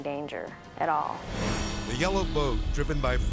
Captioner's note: dramatic whoosh